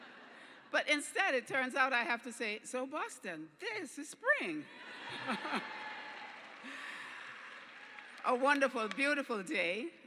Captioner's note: cheers